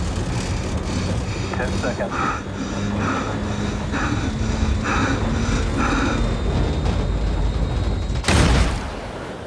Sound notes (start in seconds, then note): 2.2 aircraft rattling intensify, panting heavily